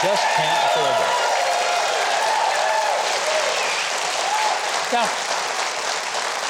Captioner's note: crowd cheering and clapping